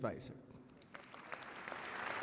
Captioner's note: applause